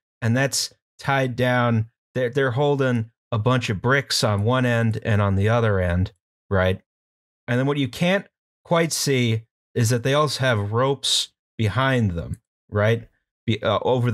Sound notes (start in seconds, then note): none